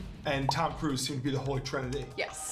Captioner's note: pop